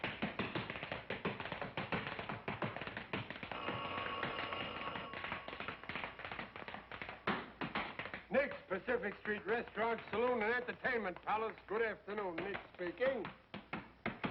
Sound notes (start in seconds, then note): 3.5 telephone ringing